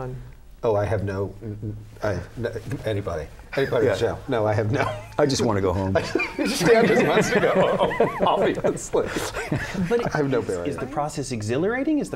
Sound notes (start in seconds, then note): 5.8 laughter